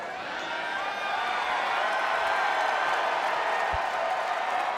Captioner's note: crowd cheering